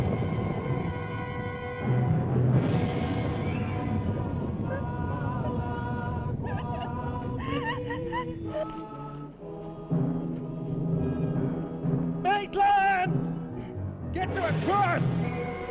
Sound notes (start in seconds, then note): 0.1 dramatic music; 5.4 Pat whimpering